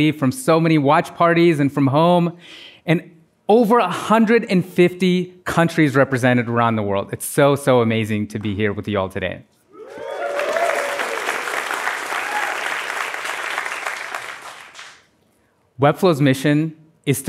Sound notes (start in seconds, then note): 14.6 applause